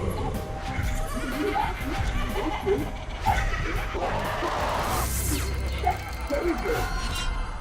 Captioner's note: Little Apple, Grapefruit and Orange laughing